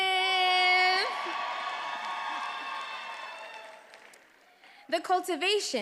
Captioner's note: attendees applauding and cheering